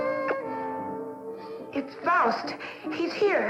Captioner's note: romantic music; smooch